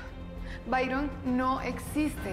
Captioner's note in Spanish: none